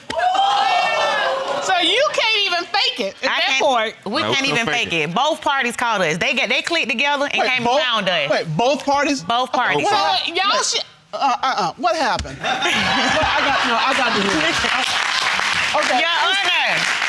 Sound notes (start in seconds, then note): 12.4 audience laughing